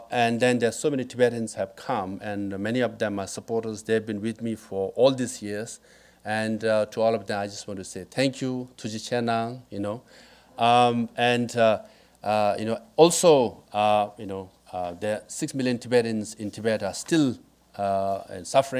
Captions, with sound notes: And then there's so many Tibetan have come and many of them are supporters. They've been with me for all these years. And to all of them, I just wanna say thank you. (speaking foreign language) Also six million Tibetans in Tibet are still in suffering.